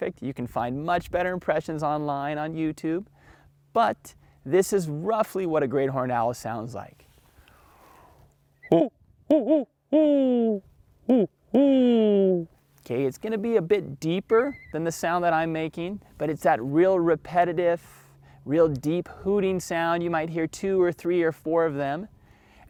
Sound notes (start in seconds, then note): 9.2 hooting like an owl